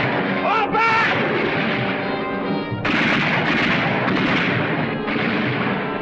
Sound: guns firing

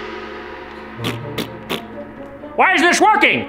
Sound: Grinch pinching noises

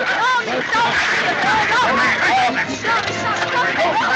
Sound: indistinct chatter

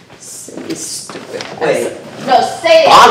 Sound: shoes stomping on ground drowns out speaker

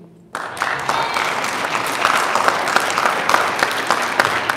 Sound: audience applauding

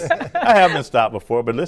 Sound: laughter

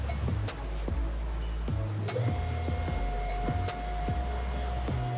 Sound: machine whirs

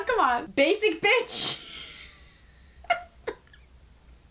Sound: laughs

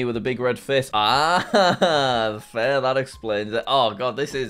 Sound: laughs

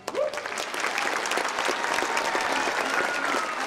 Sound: audience applauding

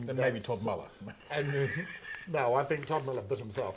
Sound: laughing

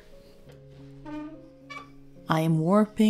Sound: squeaking

